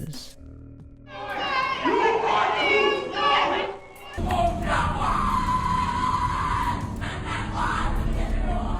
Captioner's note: various screaming and chanting